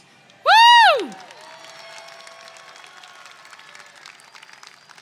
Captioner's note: attendees clap and cheer